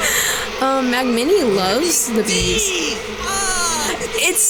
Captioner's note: shouts